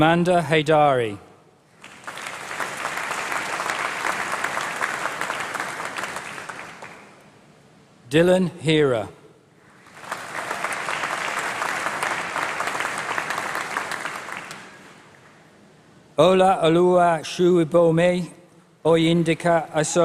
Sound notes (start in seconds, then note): 0.0 applause; 18.9 applause